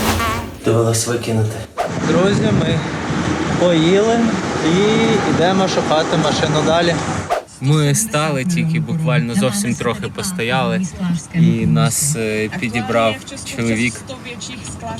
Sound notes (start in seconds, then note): 10.7 radio plays in czech